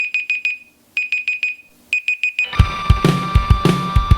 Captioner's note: alarm beeping; upbeat music